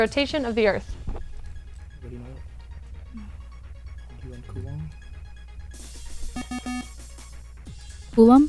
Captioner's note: wispering